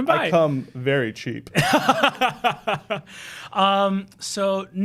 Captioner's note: laughing